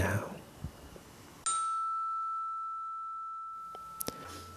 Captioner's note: chime!